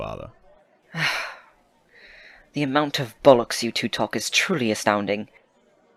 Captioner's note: Remus sighs